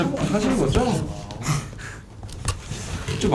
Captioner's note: laughing